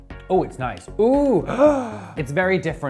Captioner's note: gasps